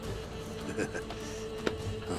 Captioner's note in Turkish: Gülme sesi